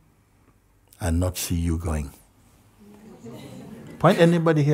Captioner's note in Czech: smích